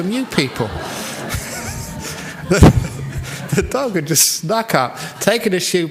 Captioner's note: laughter